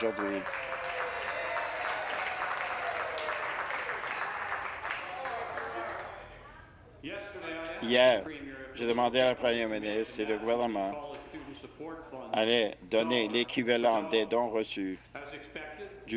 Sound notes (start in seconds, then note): 4.4 applause